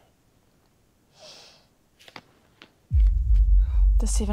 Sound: inhales sharply

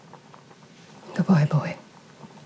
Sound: mum whispers

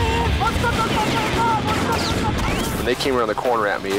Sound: yelling; gunfire

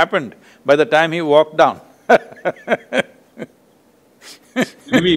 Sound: laughs

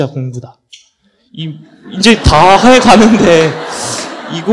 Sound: audience Laughter

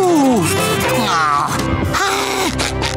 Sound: groaning

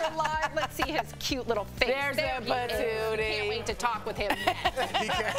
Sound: laughter

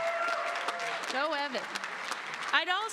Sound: applause

